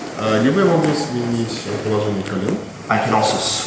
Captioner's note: speaking in a foreign language